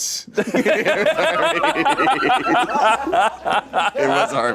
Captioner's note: everyone laughs